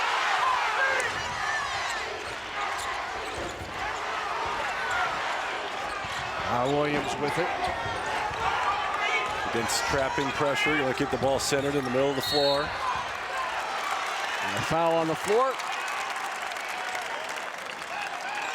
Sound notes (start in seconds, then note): 2.6 crowd chants; 12.2 whistle blows